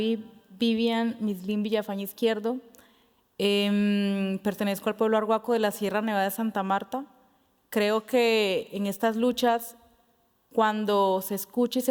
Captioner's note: speaking Spanish